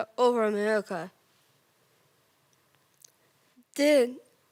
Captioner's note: rustling